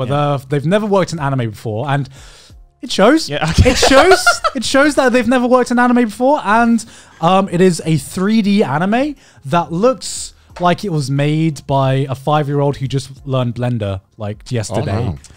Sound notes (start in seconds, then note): 3.6 laughing